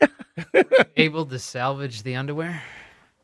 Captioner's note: laughing